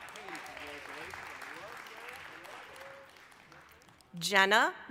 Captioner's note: applause